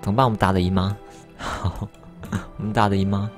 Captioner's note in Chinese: 苦笑